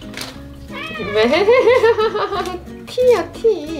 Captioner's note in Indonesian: tertawa